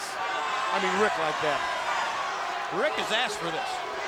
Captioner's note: crowd cheering